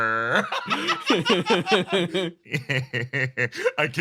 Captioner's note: laughs